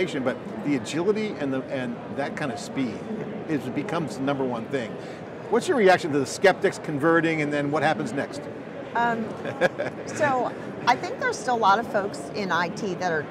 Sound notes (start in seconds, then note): 9.2 laughs